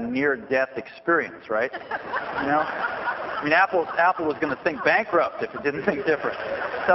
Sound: laughter

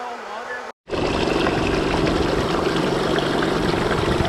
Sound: engine roars

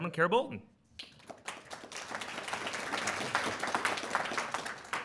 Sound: audience applauds

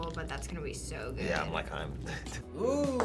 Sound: laughs

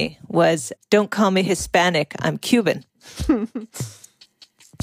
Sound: Longoria laughs

